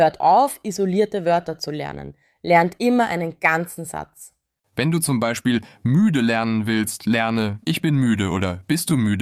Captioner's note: tired